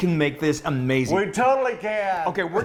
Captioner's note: laughs